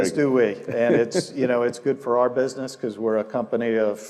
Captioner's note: laugh